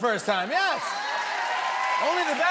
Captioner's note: cheers and applause